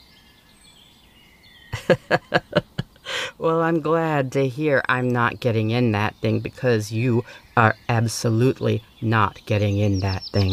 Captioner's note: laugh